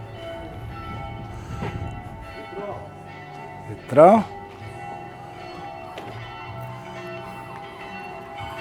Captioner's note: church Bells Ringing in the Background